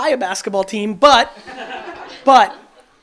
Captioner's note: audience laughs